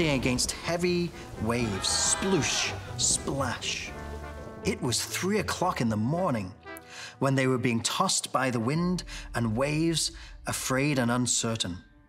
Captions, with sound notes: They were fighting against heavy waves. Sploosh, splash. (disciples screaming) It was three o'clock in the morning when they were being tossed by the wind and waves, afraid and uncertain.